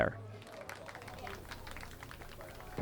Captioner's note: applause